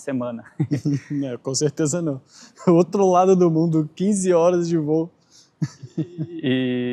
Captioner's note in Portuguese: risadas; risadas